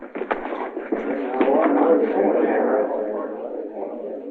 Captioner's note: men chattering